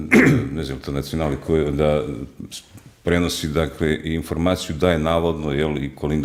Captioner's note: coughs